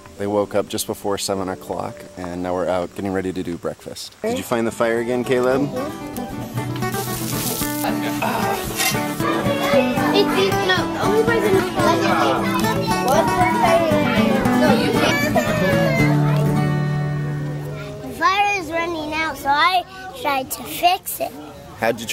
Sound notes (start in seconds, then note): 6.1 guitar music; 9.6 chattering